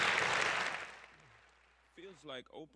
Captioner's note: applause